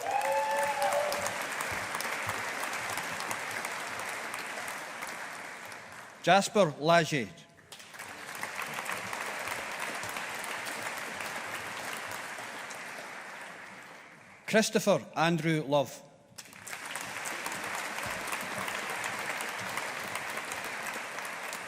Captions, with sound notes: (AUDIENCE APPLAUDING) Jasper Lages. (AUDIENCE APPLAUDING) Christopher Andrew Love. (AUDIENCE APPLAUDING)